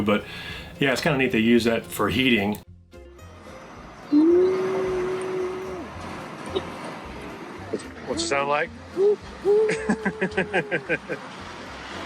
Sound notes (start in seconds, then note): 9.5 laughs